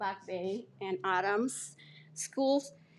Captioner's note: none